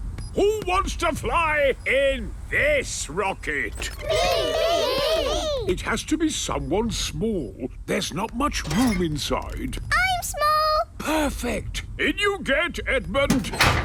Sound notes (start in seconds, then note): 3.9 calling out in turn